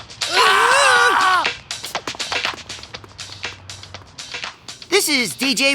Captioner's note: screaming